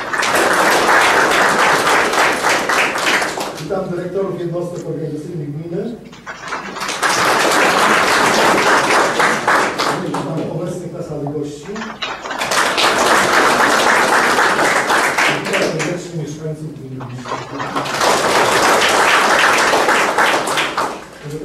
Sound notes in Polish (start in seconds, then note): 0.0 oklaski; 6.2 oklaski; 11.8 oklaski; 17.2 oklaski